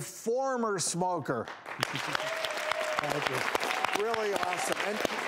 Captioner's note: applauding